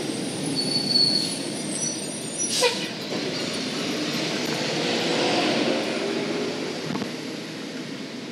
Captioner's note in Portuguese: ruído da rua e carros ao fundo